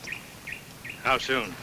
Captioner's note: bird tweets